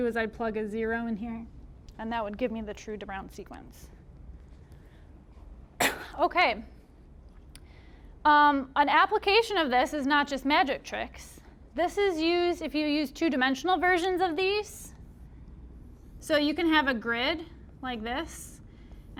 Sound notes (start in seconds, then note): 5.8 coughing